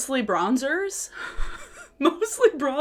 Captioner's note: laughs